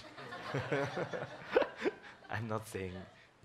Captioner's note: laughs